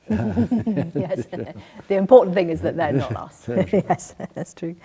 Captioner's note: laughs